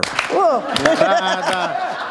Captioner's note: laughter